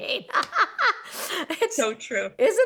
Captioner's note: laughs